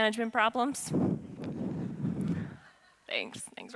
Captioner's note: audience laughing